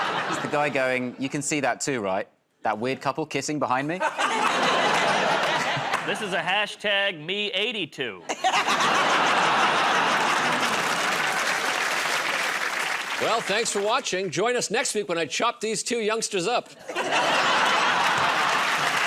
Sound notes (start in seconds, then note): 4.0 laughter; 8.2 laughter; 9.7 applause; 16.8 laughter; 17.7 applause